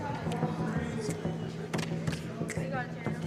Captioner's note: fingers clicking